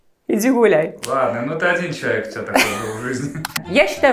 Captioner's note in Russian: закадровый голос